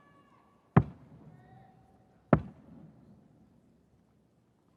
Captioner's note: footsteps thumping